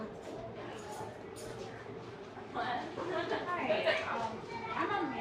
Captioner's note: people chatter indistinctly